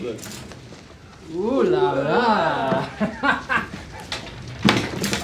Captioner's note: both laughing